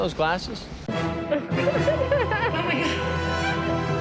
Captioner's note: dramatic sound effect